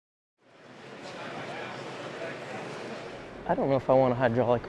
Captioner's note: crowd murmurs